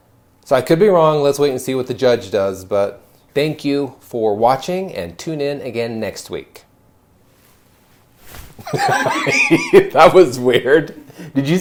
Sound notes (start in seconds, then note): 8.6 laughing